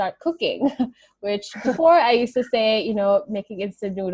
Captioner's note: chuckles